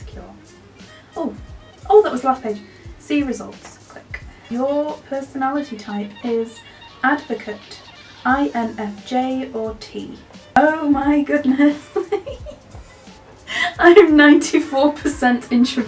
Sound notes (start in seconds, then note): 11.4 laughs